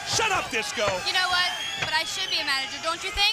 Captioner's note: crowd cheering